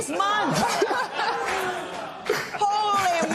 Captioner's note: laughter